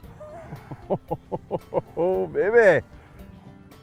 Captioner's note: laughter